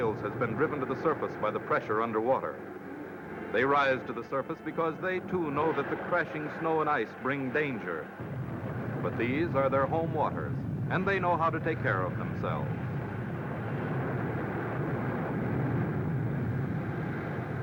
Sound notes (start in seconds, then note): none